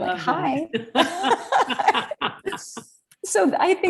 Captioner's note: both laughing